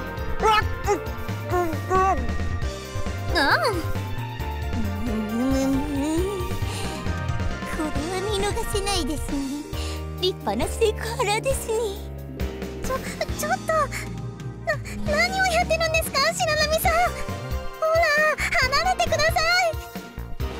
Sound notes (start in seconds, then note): 4.7 slight moan; 4.8 grumble